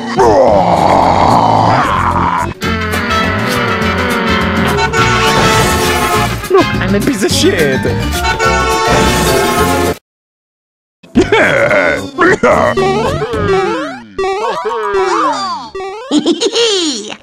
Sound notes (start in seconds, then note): 3.1 airplane noises; 4.9 car sounds; 8.1 more car sounds